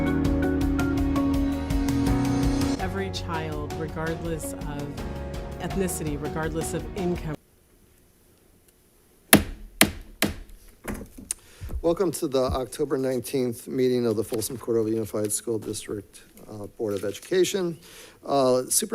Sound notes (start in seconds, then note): 0.0 gentle music; 9.3 gavel thuds